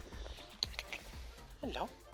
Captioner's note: click, click, click